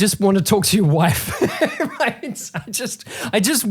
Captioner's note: laughing